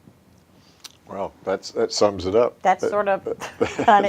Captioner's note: chuckles